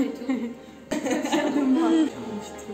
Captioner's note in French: rires